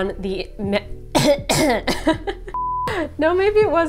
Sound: coughs

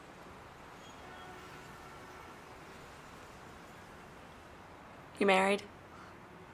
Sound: traffic humming; horns honking

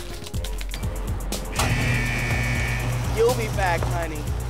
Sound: buzzer sounds

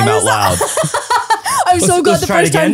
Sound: laughs

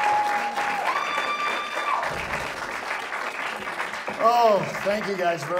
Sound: audience applauds

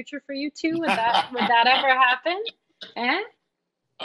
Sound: laughing

